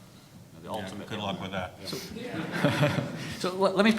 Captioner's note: audience laughing